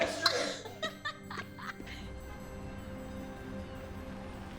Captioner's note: Candace laughing